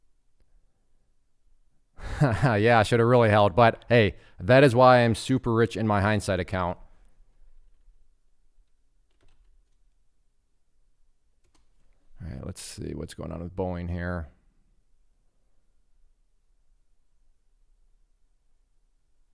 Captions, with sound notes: (chuckling) Yeah, I should have really held but, hey, that is why I'm super rich in my hindsight account. All right, let's see what's going on with Boeing here,